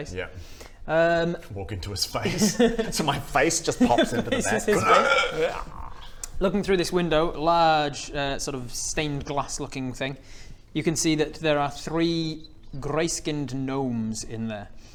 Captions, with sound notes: yep warg into his face! - So my face just pops into the bat *hrrkhkh* - Ha, replaces his face! Looking through this window large sort of stained glass looking thing you can see that there are three grey-skinned gnomes in there